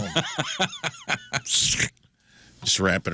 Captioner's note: laughter